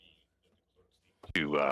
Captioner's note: speaking French